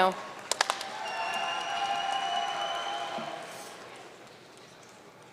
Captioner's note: audience cheering and applauding